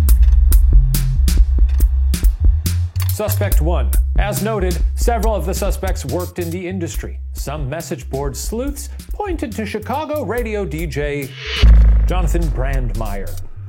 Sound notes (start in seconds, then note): 0.0 upbeat music; 3.0 slide projector clicks; 11.1 dramatic music